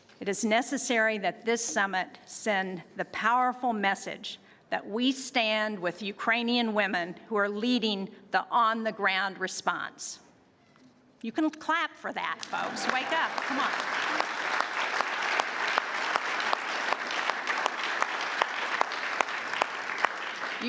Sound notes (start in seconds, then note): 16.3 applause